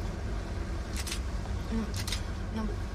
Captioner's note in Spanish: Disparos cámara